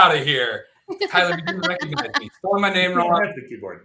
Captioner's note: laughter